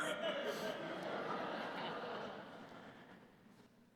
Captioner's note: laughter